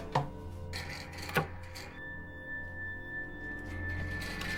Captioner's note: panel taps